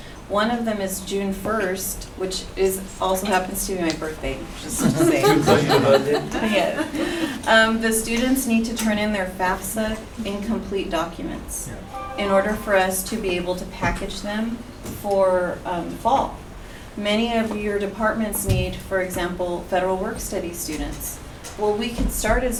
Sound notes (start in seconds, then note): 4.7 laugh